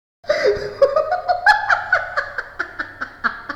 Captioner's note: chuckling